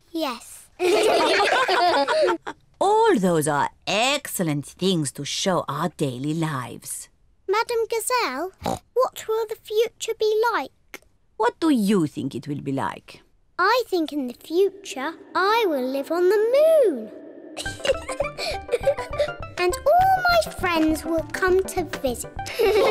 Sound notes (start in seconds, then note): 0.8 all laugh; 17.6 laughs